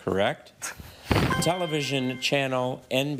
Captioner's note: object thudding; chime resonating